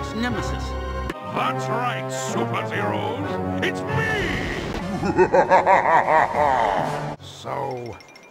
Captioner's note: laughs maniacally